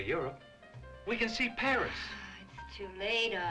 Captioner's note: sighs